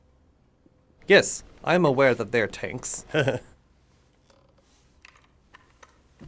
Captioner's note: chuckles